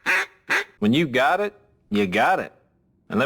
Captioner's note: blowing duck call; low bitrate audio